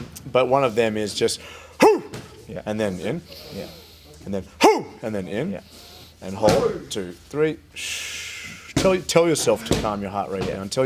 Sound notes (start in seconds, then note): 1.4 vocalised inhale; 3.2 vocalised exhale; 5.6 vocalised exhale; 5.6 vocalised inhale; 7.7 vocalised exhale